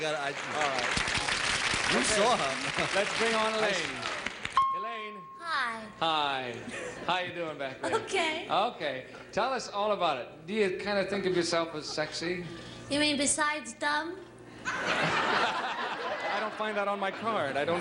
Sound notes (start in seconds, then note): 13.0 laughter